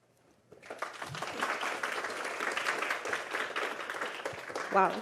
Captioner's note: applause